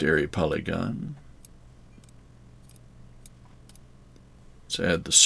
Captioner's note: mouse clicking